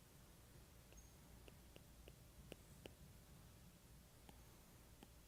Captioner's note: stylus tapping